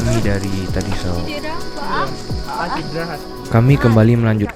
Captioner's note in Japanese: 嗚咽